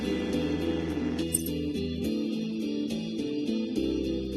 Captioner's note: steal rod sound effect